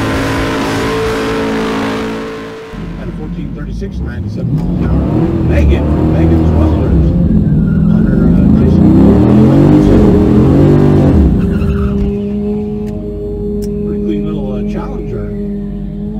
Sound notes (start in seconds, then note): 4.1 tower commentary on radio